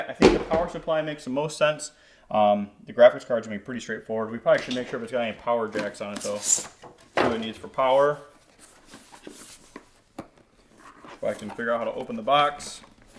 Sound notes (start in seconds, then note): 9.8 box thudding; 13.0 box thudding and crinkling